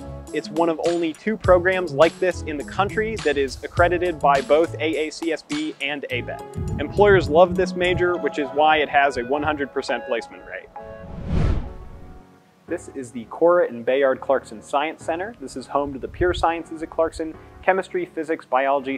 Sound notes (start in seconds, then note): 10.8 swooshing noise